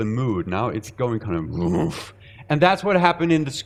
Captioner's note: grunting